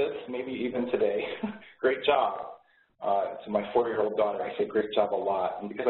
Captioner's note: laughs